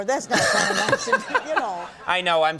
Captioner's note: laughing